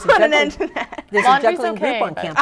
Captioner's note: laughing